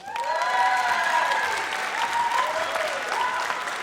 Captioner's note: audience cheers